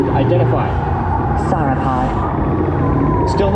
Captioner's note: beeps